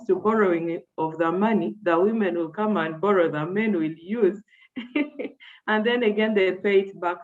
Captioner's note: chuckles